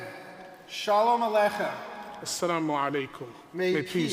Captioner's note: speaks in foreign language